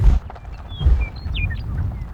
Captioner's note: tires rolling over dirt road